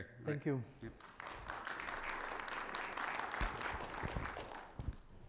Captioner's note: audience applauding